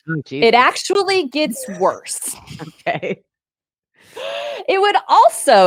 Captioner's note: laughs